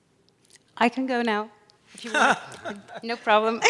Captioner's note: laughing